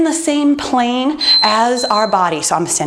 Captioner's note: beeping